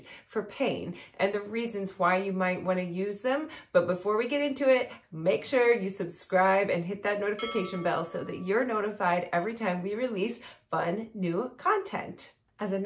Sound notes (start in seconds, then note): 7.4 bell rings